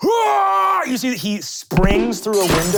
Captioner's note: screaming